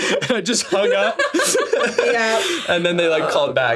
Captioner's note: laughing